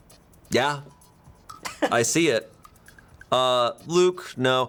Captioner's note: crew member chuckles